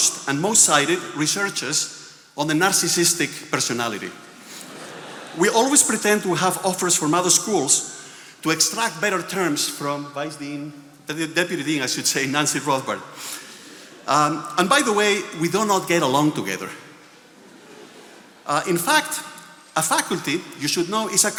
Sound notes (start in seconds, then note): 4.3 attendees laughing